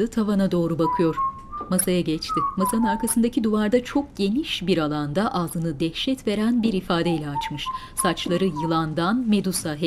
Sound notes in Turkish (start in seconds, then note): 0.6 Islık sesi; 7.3 Islık sesi